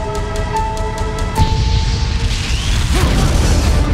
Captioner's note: blasting; dramatic music; whooshing